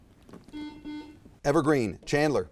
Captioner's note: buzzer chiming